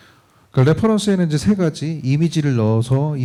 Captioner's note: speaking korean